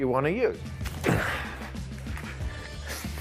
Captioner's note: grunts